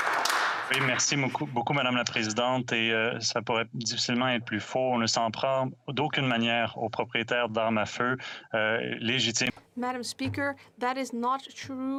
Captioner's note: applause